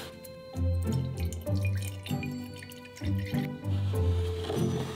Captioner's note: liquid pouring